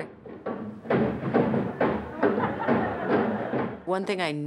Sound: stomping; audience laughing

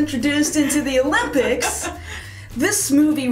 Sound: chuckles

